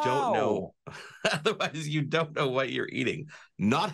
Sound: chuckles

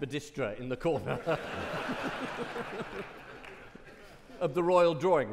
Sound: audience laughing

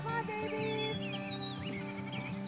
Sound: goats bleating, hands clapping

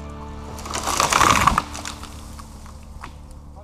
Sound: soft crash

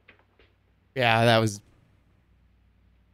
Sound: none

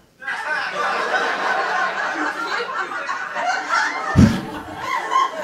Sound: audience laughing

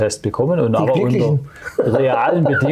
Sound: laughs

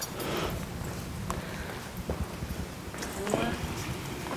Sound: shuffling

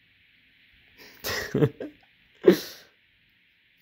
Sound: laughs because of cat

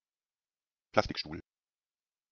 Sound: fast Pronunciation

